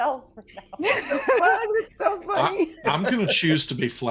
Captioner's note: group laughing